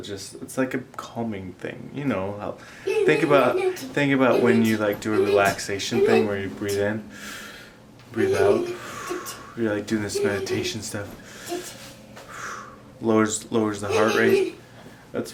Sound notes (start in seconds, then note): 4.3 murmuring; 7.1 exhales; 8.6 inhales; 11.2 breathes in and out